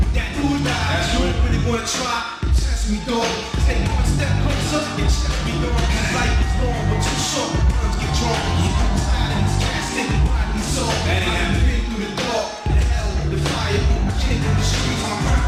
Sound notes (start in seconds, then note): 6.2 crowd cheering; 12.3 rap music continues